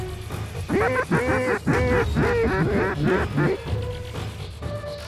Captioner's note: duck calls